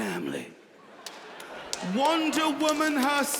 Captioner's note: audience laughing